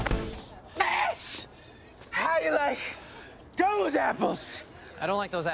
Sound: out of breath

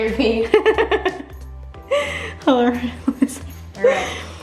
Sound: laughing

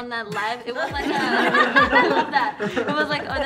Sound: laughs

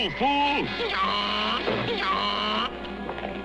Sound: hee-haw

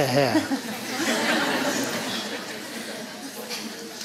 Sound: laughter

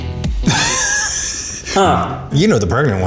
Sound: laughing

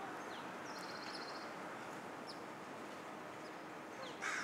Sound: birds chirping

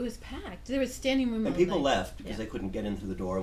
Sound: voiceover

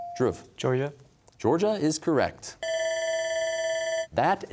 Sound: bell ringing

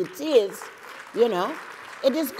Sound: applause

